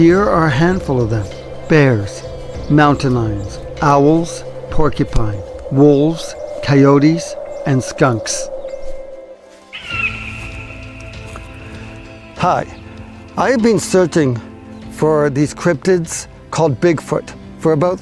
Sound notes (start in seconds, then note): 9.9 bird calling